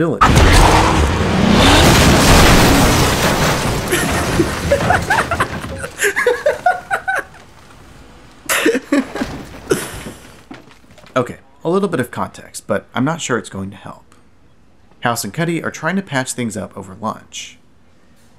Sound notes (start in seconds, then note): 0.1 crash; 0.2 revving; 3.8 laughs hysterically